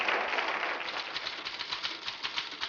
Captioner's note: clacking